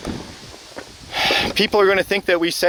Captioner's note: sighs